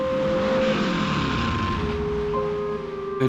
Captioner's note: engine revving